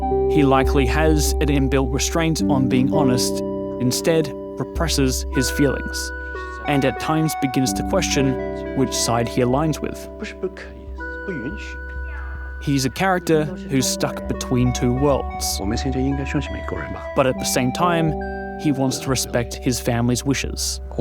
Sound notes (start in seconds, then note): 15.9 in mandarin